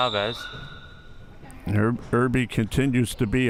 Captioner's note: whistle chirping